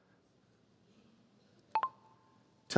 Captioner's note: computer chirps